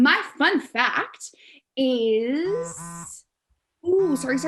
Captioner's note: phone buzzes